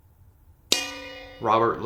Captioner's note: bell dings